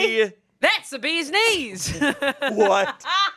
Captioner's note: laughs